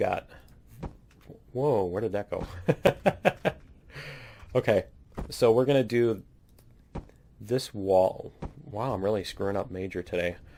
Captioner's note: laughs